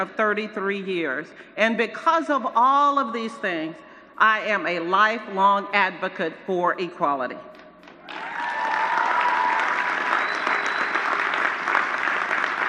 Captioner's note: applause